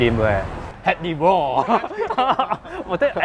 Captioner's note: laugh